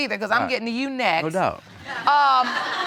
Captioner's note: audience laughs